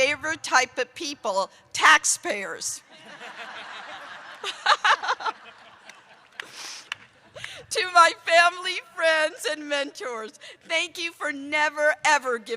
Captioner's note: laughter